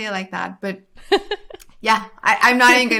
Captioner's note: laughs